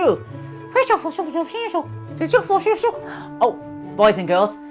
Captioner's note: speaking elvish